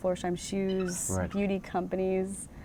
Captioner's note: monkey squeaks